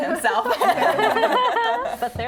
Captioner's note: laughing